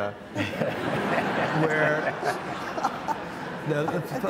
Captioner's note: audience laughs